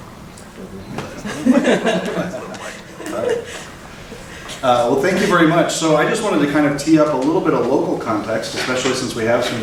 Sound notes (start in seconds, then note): 1.0 laughing